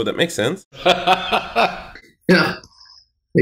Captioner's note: laughs